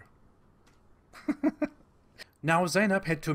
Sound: laughs like a psycho

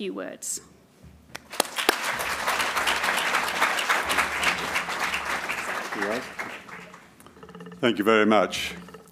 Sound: applause

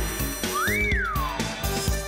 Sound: wolf whistles

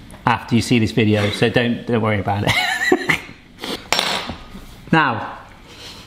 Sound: laughs

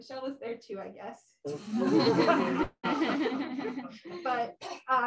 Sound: laughter

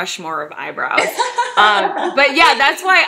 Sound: laughing

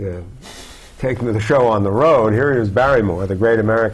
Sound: chuckle

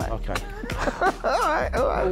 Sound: laughing

